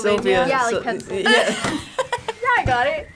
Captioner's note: laughs